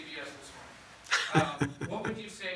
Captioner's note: laughs